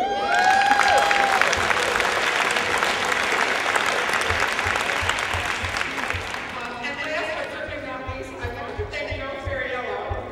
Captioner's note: applause